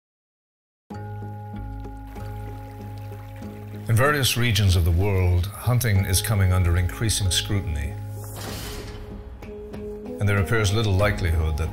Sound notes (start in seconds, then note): 1.2 bell music; 8.3 metal clangs